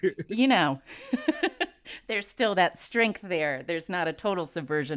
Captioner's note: laughter